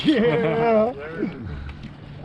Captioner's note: chuckling